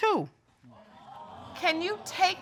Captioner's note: audience exclaiming